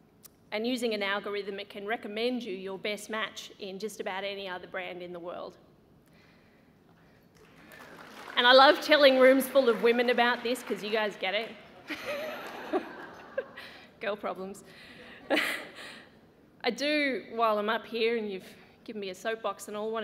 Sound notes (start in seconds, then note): 11.7 laughs; 11.8 laughter